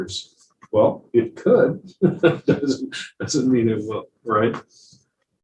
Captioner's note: chucking